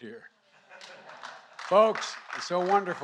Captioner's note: laughter and applause